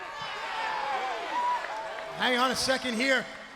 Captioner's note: crowd chatter